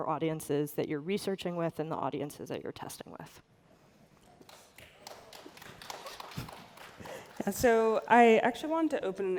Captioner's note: applause